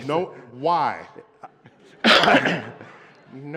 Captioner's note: laughter